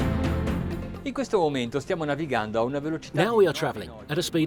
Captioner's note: dramatic orchestral music; speaking foreign language